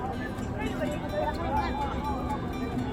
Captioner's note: people chatter